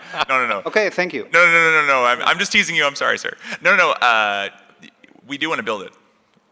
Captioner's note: laughter